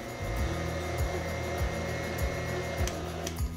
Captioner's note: mixer whirs